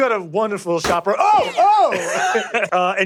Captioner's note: gunshots firing